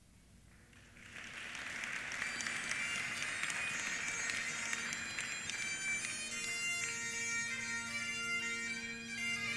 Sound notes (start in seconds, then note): 0.5 applause; 3.4 bagpipe music